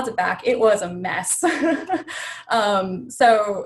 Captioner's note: laughs